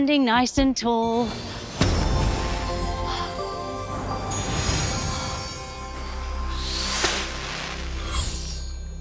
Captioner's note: magical whoosh